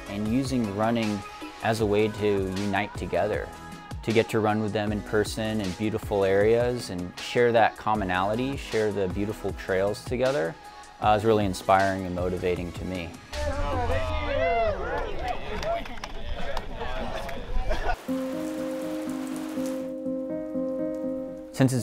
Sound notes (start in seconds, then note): 13.4 people chattering; 17.9 gentle music